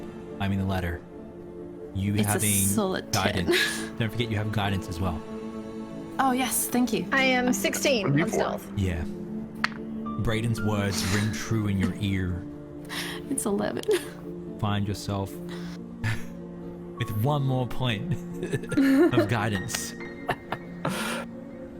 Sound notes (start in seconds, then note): 9.6 die clacks; 13.5 laughs; 16.1 laughs; 20.2 chuckles